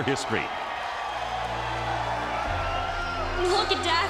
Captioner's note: crowd cheering